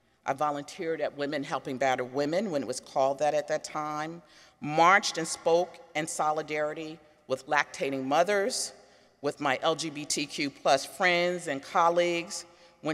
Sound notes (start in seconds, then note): none